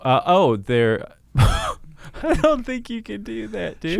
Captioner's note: laughs